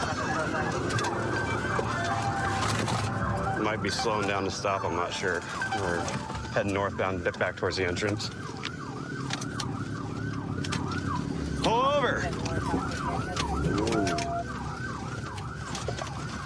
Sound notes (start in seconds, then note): 4.7 sirens blaring